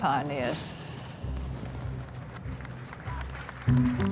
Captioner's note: applause